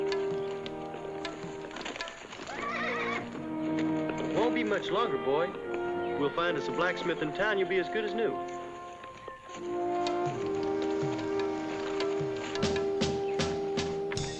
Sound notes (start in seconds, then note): 2.3 horse neighs; 9.3 soft contentious music